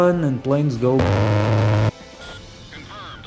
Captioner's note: brrrrrt